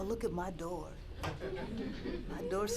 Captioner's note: laughter